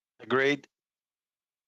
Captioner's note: speaking in French